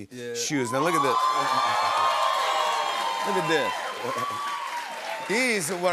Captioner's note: cheers and applause